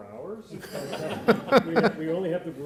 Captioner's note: all laughing